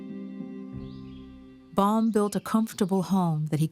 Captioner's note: birds singing